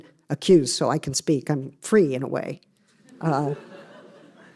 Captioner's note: laughter